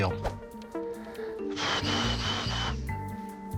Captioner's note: sighs